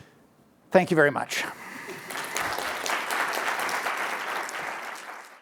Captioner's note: applause